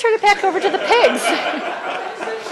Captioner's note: laughter